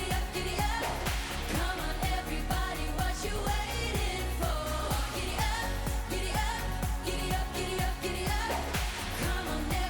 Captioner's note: Applåder; Applåder